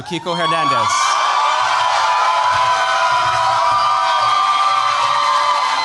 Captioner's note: cheers, applause